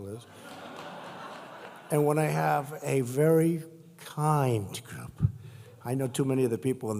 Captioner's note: laughter